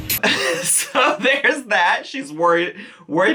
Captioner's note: chuckles